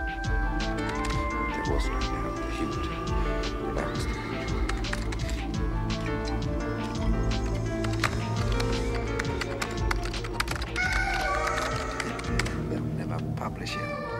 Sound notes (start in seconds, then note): 5.1 mellow upbeat music; 5.8 keyboard tapping